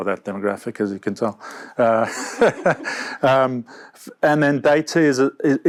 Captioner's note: both laughs